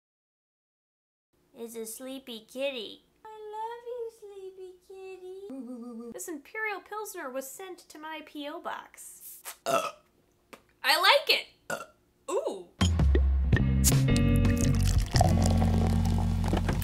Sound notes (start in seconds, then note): 9.6 burps; 12.9 intro music